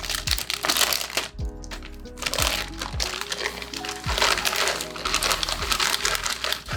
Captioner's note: gentle relaxed music; kale rattling